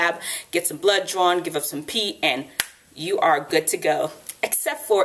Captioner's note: snap